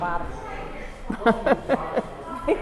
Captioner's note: laughs